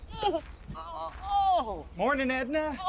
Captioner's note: Edna exclaiming and groaning